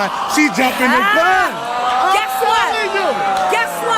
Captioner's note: audience exclaims in disbelief